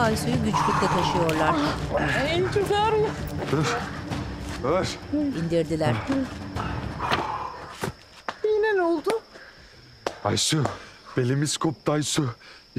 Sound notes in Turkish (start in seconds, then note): 6.9 Nefes sesi